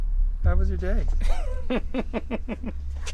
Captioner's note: laughs